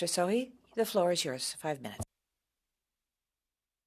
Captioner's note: speaking French